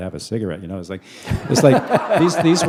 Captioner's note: laughter